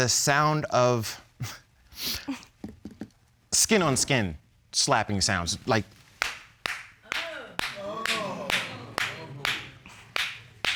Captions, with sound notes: the sound of... skin on skin, slapping sounds, like... -[clapping] -[audience gasps]